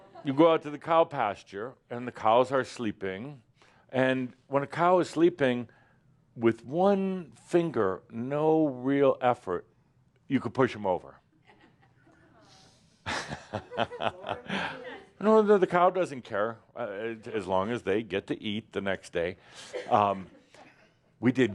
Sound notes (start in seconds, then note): 13.0 chuckles